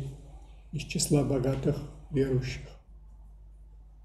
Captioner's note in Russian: стрехотание и бормотание человека на заднем плане